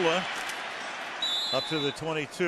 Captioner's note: whistle blows